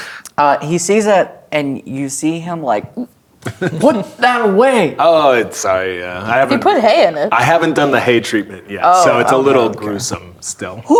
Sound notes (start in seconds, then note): 3.5 gags